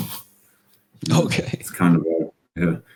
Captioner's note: laughs